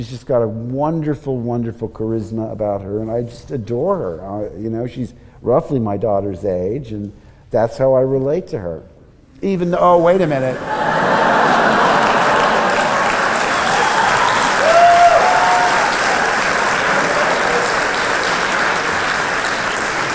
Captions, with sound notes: She has got a wonderful, wonderful charisma about her and I just adore her, you know. She is roughly my daughter's age and that is how I relate to her. Even... Oh, wait a minute!! [ audience cheering and clapping ]